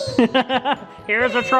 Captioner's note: laughing